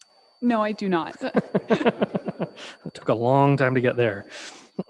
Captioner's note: crowd laughing